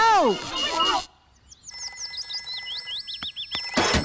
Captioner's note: phone rings